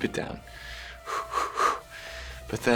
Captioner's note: exhaling sharply